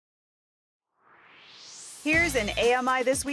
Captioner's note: swoosh